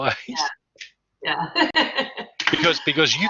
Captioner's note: laughs